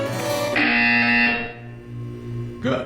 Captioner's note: BZZZZZzzT